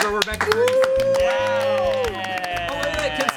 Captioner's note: everyone applauds